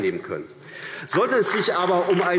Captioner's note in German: Beifall AfD